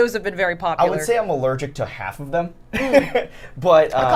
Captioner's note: laughs